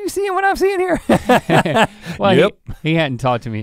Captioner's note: both chuckle